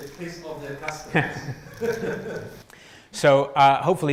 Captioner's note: laughter